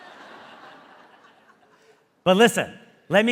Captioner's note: audience laughing